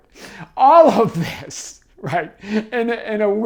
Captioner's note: laughs